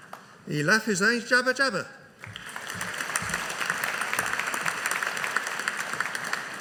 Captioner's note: audience applauding